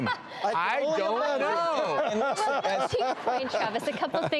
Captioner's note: laughing